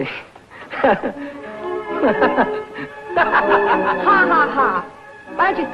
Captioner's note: Billy laughing